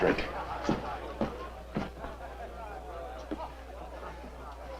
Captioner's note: guests chatting